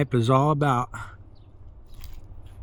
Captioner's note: sighs